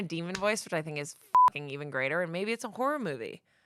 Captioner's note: beep